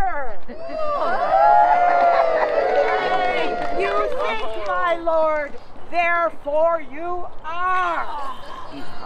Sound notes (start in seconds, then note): 0.6 The King is revived, audience cheers; 5.1 more cheers